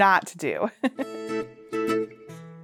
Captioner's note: host laughing; upbeat music